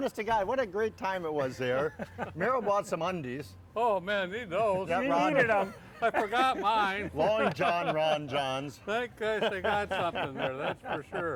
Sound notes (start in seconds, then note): 0.0 laughter; 4.1 excited chatter; 9.2 laughter